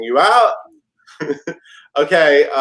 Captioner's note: laughs